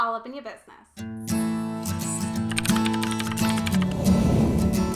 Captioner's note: logo squishing